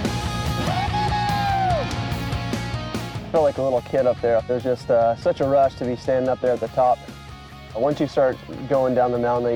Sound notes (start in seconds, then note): 0.6 joyful shouting